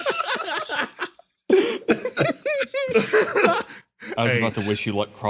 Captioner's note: cackles; tears